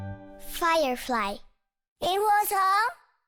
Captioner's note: speaks in foreign language